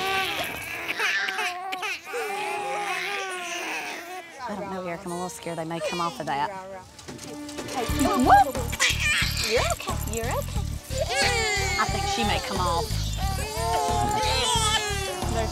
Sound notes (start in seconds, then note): 0.0 babies crying; 7.8 crying intensifies